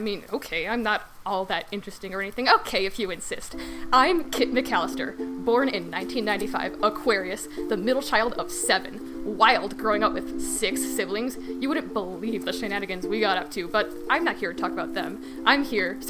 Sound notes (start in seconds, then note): 2.9 SFX: Ukulele music starts; 3.8 excitedly